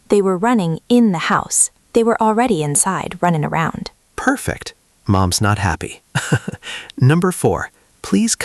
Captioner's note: laughs